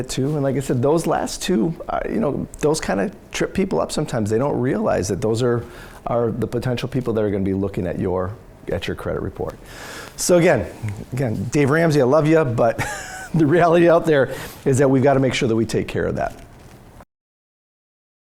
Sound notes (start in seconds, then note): 12.7 laughs